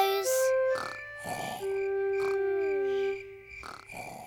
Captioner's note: george snoring